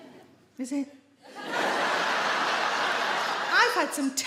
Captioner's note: audience laugh